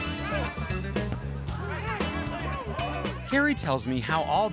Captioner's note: players shouting